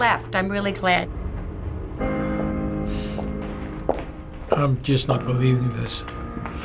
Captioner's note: sighs softly